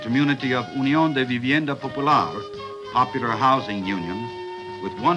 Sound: speaking Spanish

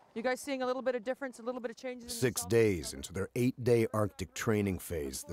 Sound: voiceover

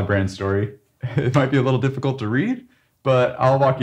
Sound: chuckles

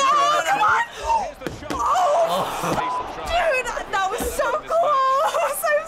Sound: gasping

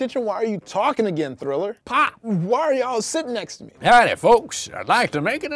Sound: none

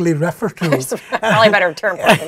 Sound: laugh

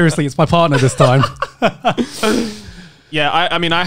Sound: laughing

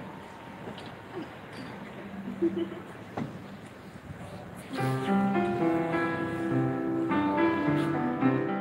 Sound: laughs and starts playing the piano again

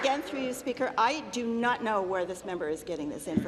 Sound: applause

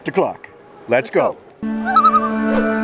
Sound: loon calls

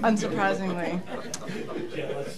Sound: laughter

